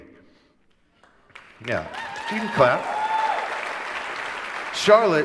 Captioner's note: applause